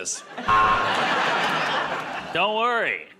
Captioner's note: buzzer